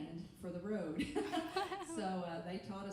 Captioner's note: laughing